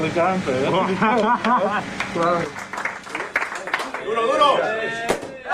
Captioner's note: chuckles; applauding; bottle pops